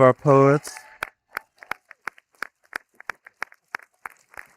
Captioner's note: audience applauding